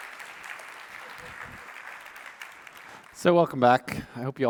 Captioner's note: applause